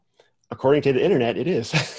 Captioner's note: laughs